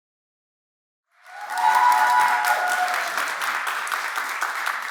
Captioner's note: cheers, applause